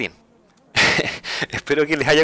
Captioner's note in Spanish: risas